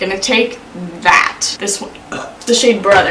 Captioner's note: burps